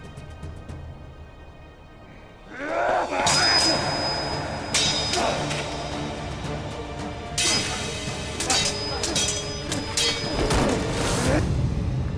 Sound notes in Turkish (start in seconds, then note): 5.1 Kılıç sesleri